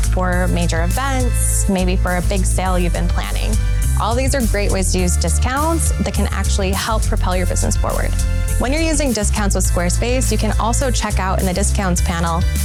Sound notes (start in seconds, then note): none